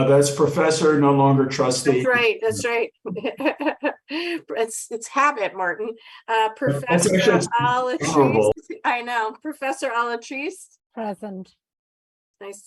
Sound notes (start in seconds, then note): 1.9 laughing; 6.5 speaking off microphone